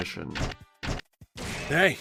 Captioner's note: Reploid footsteps, clang